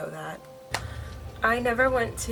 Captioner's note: claps